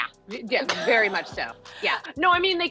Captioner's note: laughs